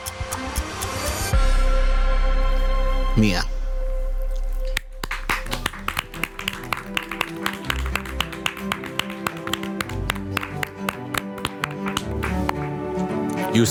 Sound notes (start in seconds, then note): 5.3 group applauds; 6.7 emotive music